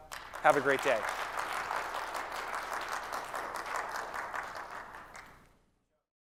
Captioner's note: applause